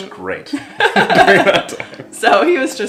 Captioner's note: laughs